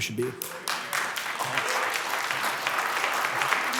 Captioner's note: clapping